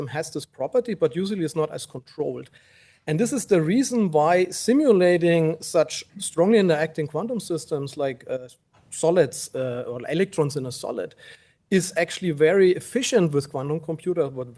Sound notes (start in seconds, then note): none